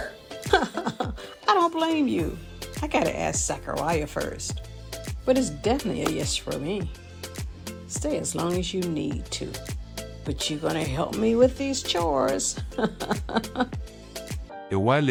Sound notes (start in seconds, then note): 12.5 the two laugh